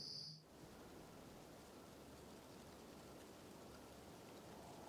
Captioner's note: snow falling and wind